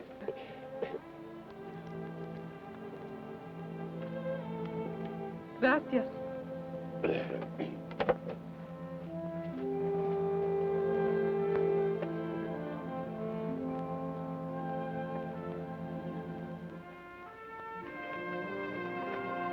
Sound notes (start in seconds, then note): 0.3 peaceful orchestral music; 7.0 Carney clears his throat